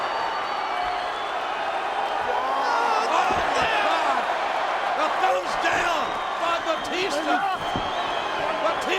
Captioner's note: applause